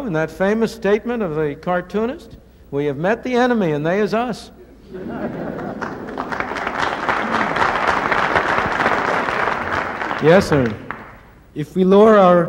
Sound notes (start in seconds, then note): 4.9 laughter and applause